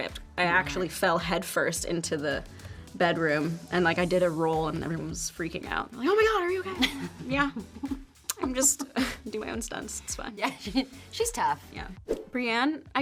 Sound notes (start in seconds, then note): 6.6 Brianne laughs; 12.1 graphics swoosh